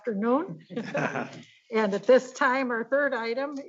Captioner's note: board members laughing